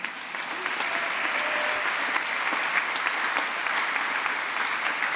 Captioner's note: applause